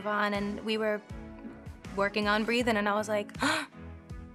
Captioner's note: gasps